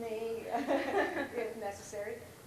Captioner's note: laughter